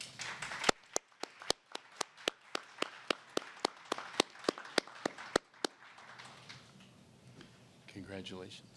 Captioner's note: applause